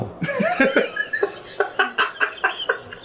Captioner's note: laughing